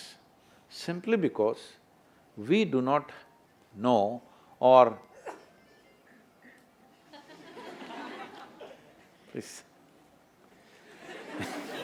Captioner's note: laughter